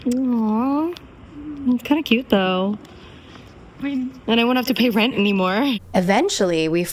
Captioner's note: hoots